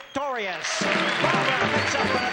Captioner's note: audience cheers